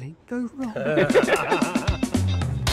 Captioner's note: knowing laughter